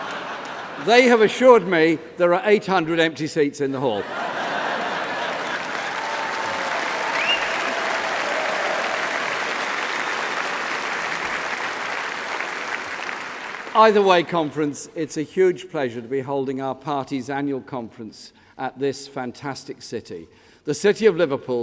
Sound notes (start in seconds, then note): 3.9 laughter; 9.0 laughter; 10.1 applause